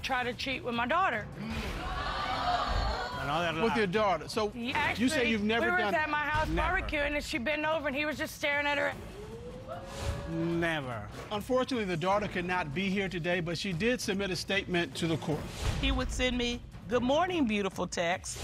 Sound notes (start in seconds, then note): 1.7 audience exclaiming; 9.6 audience exclaiming